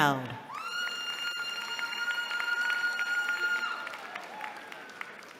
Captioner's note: cheering